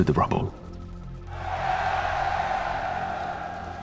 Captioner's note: cheers